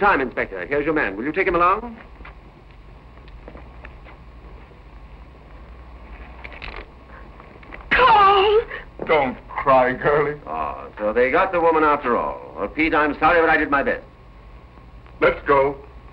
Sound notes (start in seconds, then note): 7.9 crying